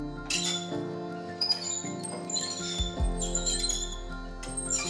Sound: metal squeaking

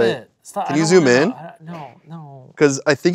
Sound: stammering

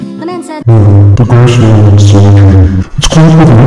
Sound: deep distorted earrape

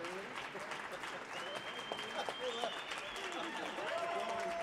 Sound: audience chattering

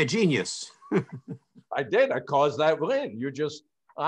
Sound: chuckles

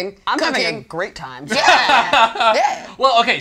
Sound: all laughing

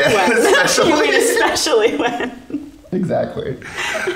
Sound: both laughing

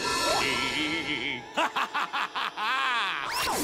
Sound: laughter

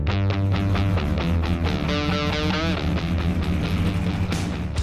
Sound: rock music; car engine revving

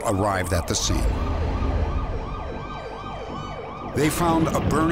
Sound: sirens

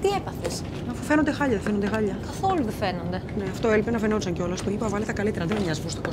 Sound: Vanina and flight attendant speaking foreign language

